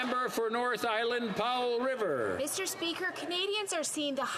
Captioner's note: some Applause